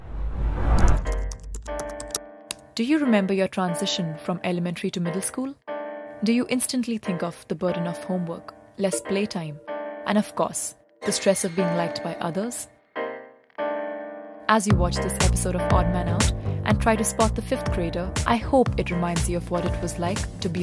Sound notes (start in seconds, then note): 1.0 keyboard clicking